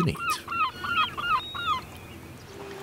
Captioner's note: bird caws